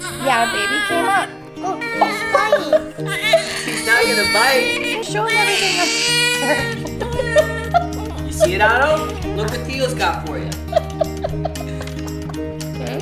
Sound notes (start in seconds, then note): 1.6 baby crying; 3.1 laughing; 5.0 loud crying; 10.4 laughing